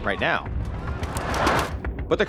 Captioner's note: robots thumping